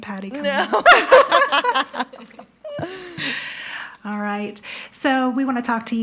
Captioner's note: laughs